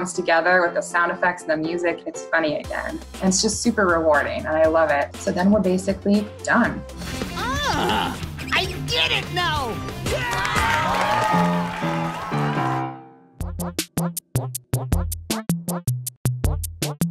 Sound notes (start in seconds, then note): 10.0 crowd cheers; 13.4 theme music